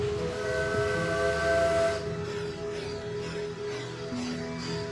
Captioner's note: train horn blowing